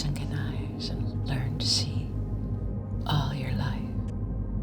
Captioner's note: whispering